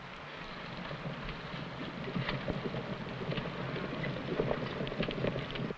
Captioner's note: horse hooves pattering